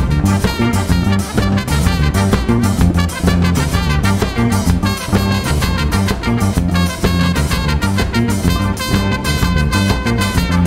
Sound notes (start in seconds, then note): none